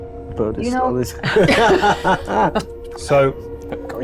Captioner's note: chuckling